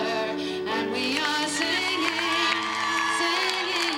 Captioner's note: audience cheers